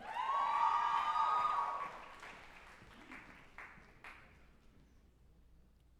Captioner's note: group applauding and cheering